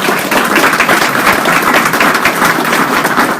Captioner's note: applause